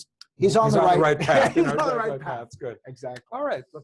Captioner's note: laugh